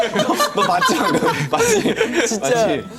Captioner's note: haha